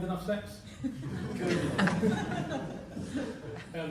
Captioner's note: laughter